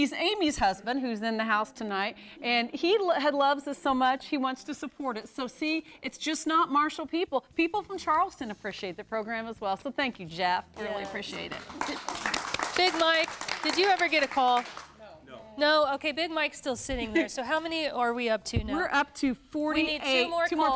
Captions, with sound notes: He's Amy's husband, who's in the house tonight. And he loves us so much, he wants to support us. So, see, it's not just Marshall people. People from Charleston appreciate the program, as well. Thank you, Jeff. We really appreciate it. [�applause�] >> Big Mike, did you ever get a call? >> No. >> Big Mike is still sitting there. How many are we up to now? >> 48.